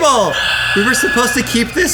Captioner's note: sighs